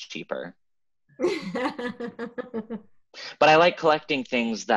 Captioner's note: Amy laughing